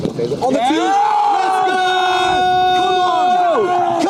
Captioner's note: cheering